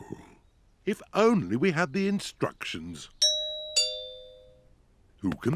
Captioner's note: doorbell rings